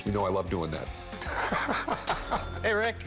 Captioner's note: laughs